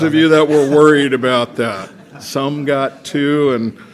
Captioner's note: laughter